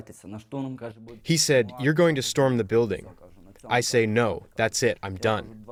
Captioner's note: through translator